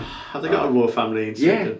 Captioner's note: hands thudding